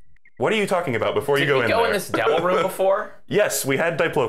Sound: laughing

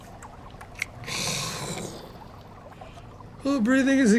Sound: snorts

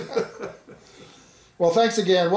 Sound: laughing

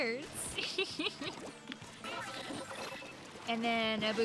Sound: laughing

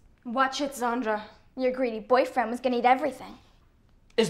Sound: none

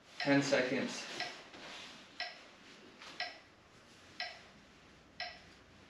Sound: metronome ticking

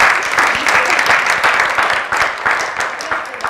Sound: applause

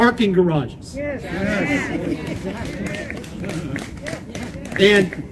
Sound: applause

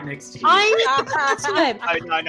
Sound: all laughing

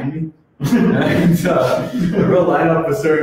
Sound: laughs

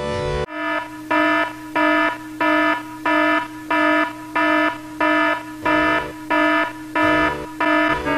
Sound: alarm sounds

